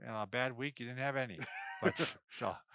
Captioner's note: laughs